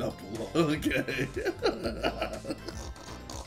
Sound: laughing

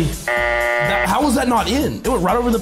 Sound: buzzer buzzes

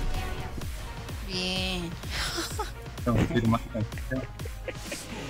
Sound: giggles

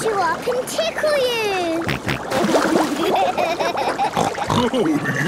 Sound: snorting, giggling

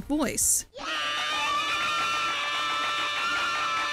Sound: screams loudly

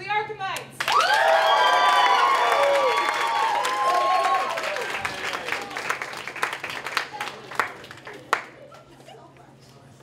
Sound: applause

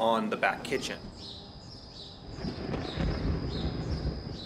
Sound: birds chirping; thunder rumbling

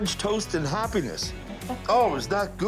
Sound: laughs

